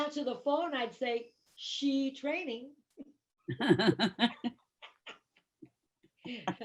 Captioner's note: laughter